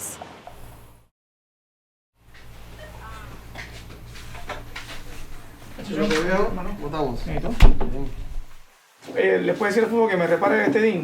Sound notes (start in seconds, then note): 6.0 speaking Spanish